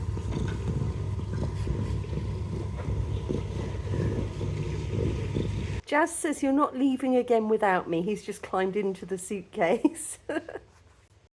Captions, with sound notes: Jaz says, 'you're not leaving again without me.' He's just climbed into the suitcase. [laughing]